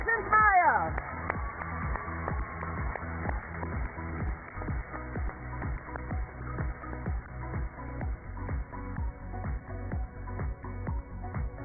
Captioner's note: cheers and applause